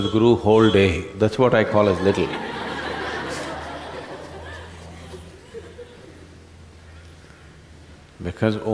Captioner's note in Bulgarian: смях